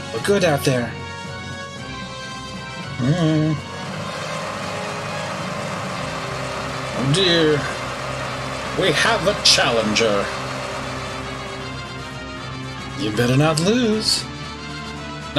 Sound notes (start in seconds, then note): 3.5 audience cheering